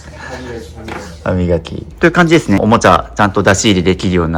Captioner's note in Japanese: 笑い; 鼻息